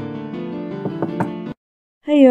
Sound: knock knock

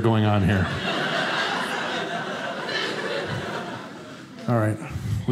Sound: audience laughing

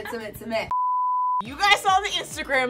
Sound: beep

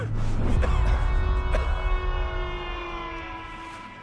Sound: person coughing

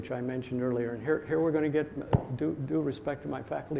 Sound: claps hands

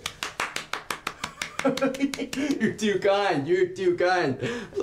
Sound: laughs

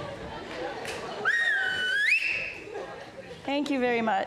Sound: person whistles

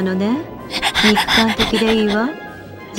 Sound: heavy breathing

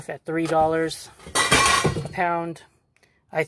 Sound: crash of silver plate

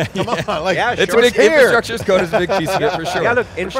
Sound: laughs

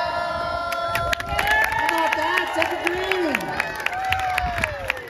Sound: applause

